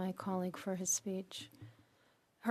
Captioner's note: speaking French